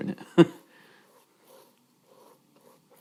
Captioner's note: chuckling